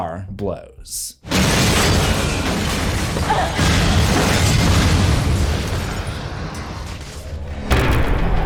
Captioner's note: explosion; impact